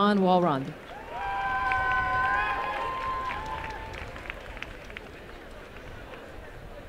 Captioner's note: applause and cheering